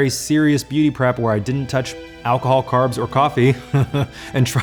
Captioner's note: laughs